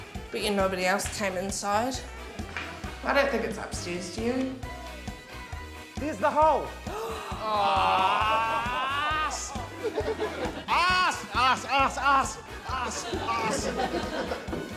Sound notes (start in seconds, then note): 6.9 gasping, exclaiming